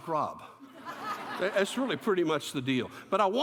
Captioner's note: laughter